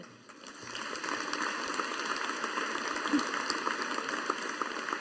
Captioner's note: audience applauding